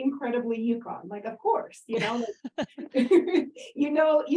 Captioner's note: laughter